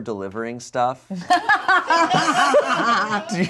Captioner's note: everyone laughs